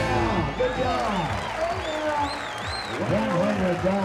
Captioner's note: crowd claps, cheers